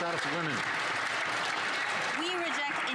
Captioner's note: some Applause